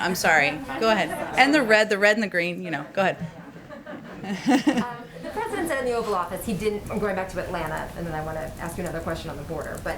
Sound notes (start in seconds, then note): 3.3 laughter